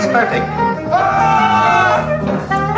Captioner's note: screams